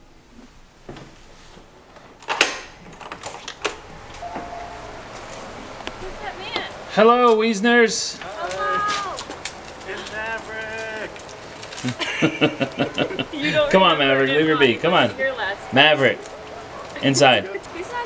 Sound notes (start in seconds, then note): 2.7 deadbolt clicks; 11.8 group laughter